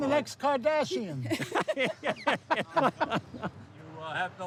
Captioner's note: laughing